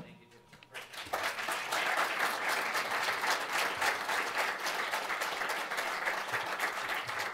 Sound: applauding

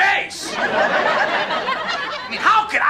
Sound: laugh track

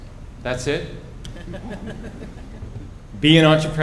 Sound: laughter

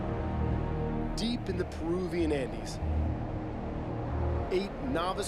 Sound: voiceover

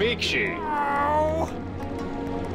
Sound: Dr. Crumpet groans

